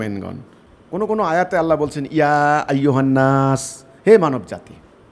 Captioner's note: Arabic